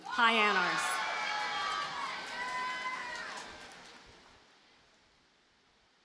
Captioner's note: audience cheers and applauds